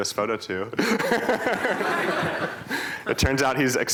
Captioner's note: laughter